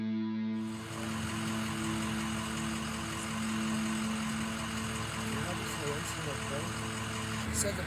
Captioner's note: ambulance Engine Sound